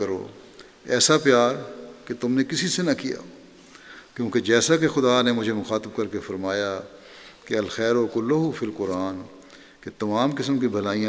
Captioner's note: Arabic